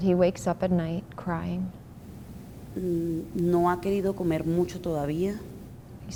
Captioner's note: speaking Spanish